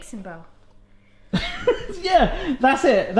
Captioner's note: laughs